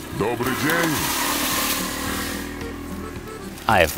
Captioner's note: scooter engines roaring